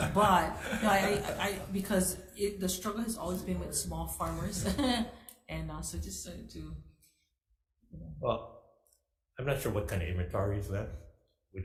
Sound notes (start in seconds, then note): 4.2 laughs